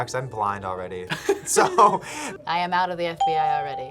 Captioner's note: laughs; bell rings